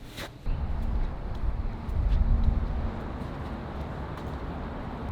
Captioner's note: traffic rumbling